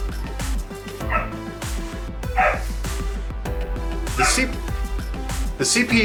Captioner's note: she continues to bark